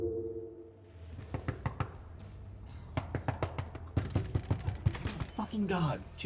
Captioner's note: fist pounding; knuckles rapping